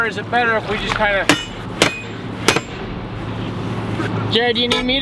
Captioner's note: metal banging